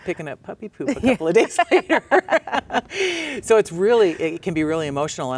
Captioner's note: laughs